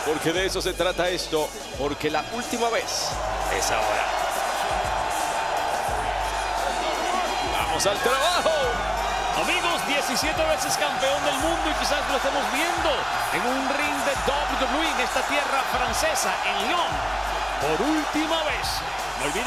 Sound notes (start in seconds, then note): 4.4 applause